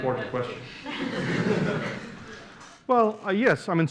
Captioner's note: laughter